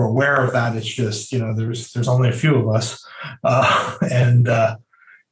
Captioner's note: laughing